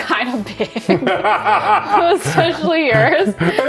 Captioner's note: laughs